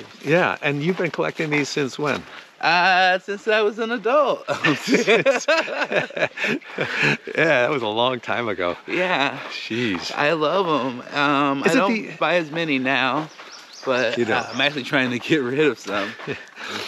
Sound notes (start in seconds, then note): 4.4 laughs